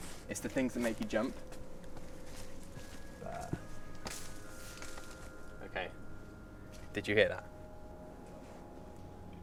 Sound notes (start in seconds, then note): 3.9 rustling